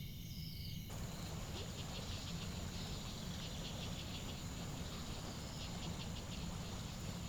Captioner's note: water gurgles from the stream